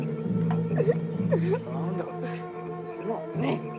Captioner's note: Pilar crying; soldiers speak Japanese